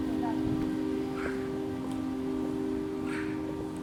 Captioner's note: bicycle sounds